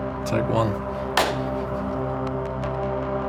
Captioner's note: handclap sound